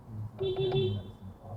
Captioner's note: beepbeepbeep